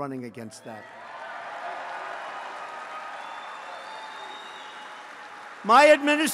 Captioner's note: applause